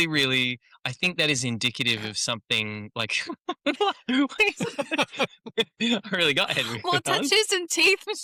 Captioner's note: laughter